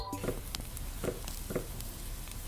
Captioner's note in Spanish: chisporroteo